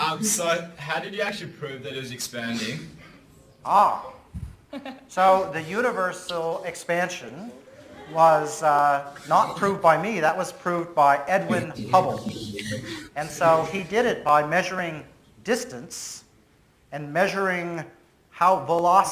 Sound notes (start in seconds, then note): 4.7 presenter laughs